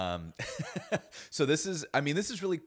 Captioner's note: laughs